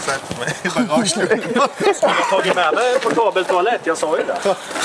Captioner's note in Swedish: skratt